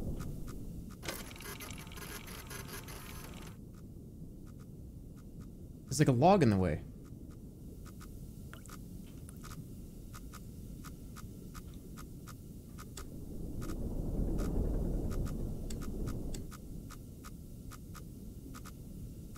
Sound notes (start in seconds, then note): 0.8 machine whirring; 8.0 machine whirring